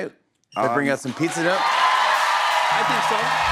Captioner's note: cheers and applause